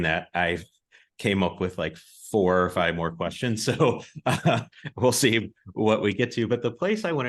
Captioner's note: polite laughs